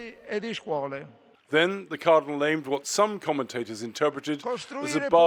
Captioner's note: voice-over